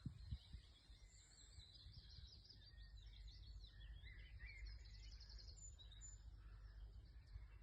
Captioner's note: birds singing